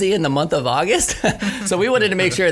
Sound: laughing

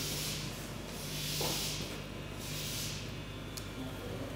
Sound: machine whirring in the background

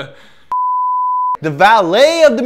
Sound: beep

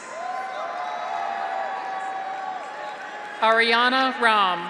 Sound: graduates cheer; audience applauds

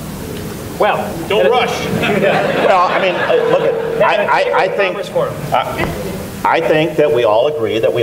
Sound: laughter

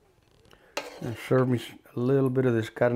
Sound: spoon scraping

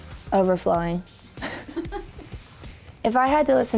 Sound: laughing

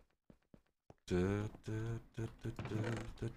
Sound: hums

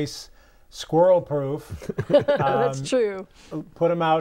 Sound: laughing

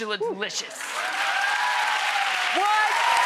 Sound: audience applauding

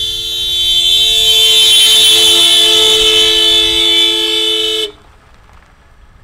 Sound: car horn

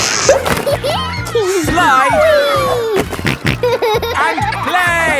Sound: giggles; snorting

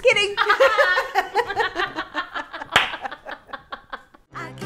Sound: laughing

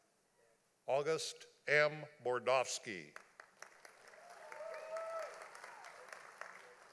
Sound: audience applauding

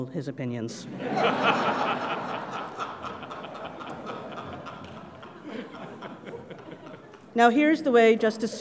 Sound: laugh

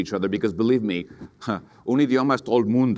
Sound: speaks in foreign language

